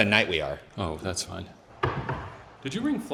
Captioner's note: knocking